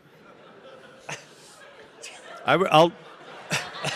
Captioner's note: audience laughing